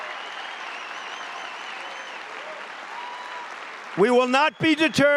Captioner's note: applause